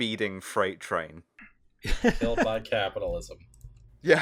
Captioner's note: laughter